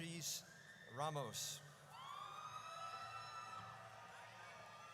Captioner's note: audience cheers